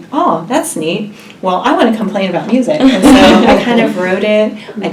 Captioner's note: laugh